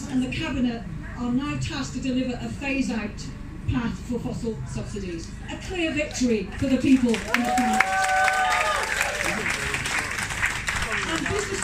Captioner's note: clapping, cheering